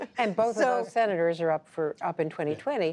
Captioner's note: laughs